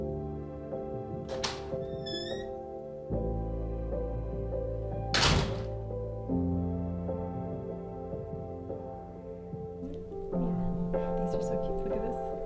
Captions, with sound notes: (door clicks) - These are so cute, look at this. That's a cute one. - Thank you. It's nice.